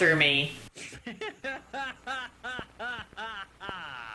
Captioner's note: laughing